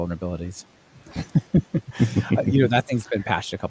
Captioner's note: laughing